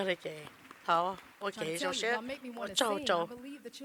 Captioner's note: applause